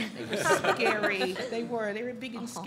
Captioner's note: audience laughs